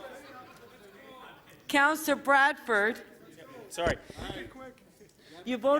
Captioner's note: laughter